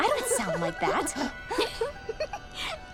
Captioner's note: laughing